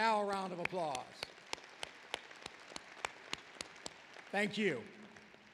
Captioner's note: applause